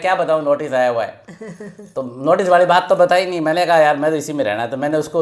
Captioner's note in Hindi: हंसी